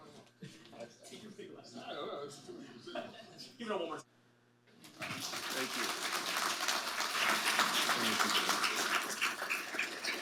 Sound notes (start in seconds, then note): 4.9 audience applauding